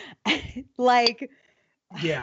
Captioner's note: sighs